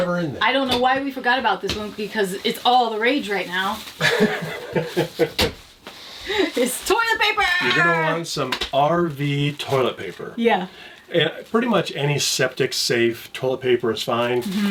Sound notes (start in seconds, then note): 4.0 chuckling